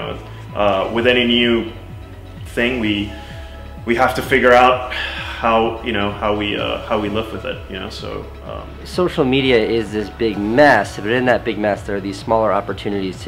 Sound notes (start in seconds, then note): none